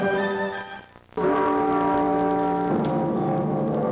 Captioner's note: deep bell ringing